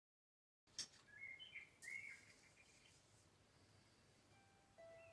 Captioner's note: birds chirping